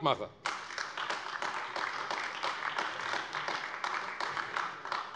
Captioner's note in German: Beifall AfD